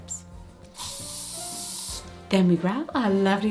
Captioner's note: hairspray hissing